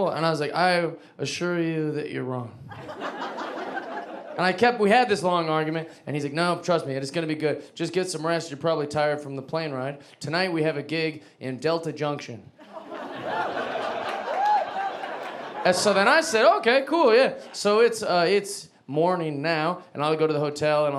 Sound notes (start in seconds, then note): 2.7 audience laughing; 12.6 audience laughing